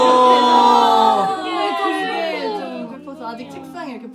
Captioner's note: teary